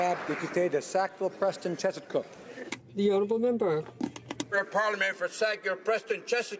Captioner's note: applause